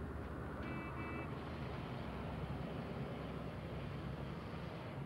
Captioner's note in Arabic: صوت بوق السيارة